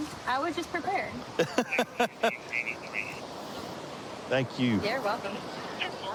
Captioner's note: laughing